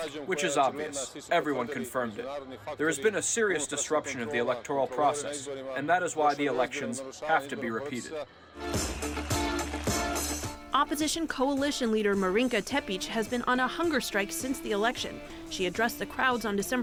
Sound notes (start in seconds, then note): 9.0 voice-over